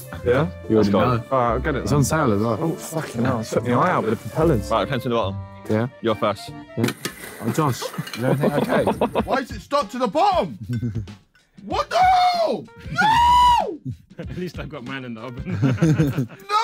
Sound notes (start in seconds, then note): 7.1 toy hitting ground; 15.4 laughing